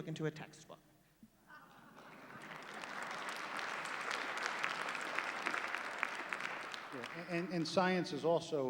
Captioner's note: laughter, applause